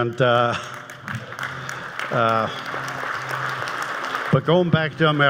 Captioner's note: audience applauds